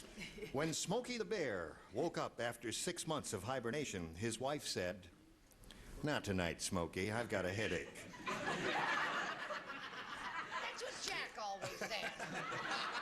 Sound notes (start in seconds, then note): 8.2 laughing; 11.6 laughs